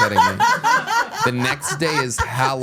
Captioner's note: everyone laughs